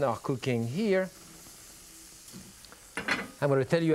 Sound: sizzling

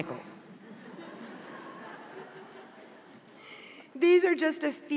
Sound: audience laughs

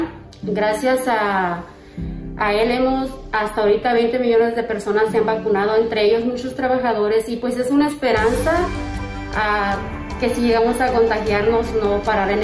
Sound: speaking spanish

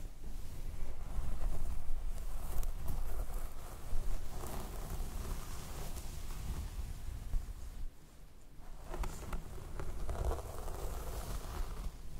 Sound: hair stroking

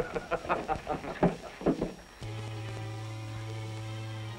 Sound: laughter

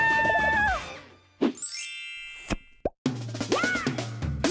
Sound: chime; upbeat music

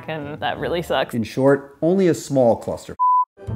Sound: beep

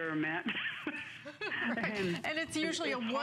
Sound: laughter

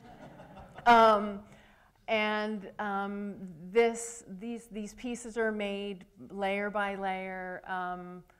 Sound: laughter

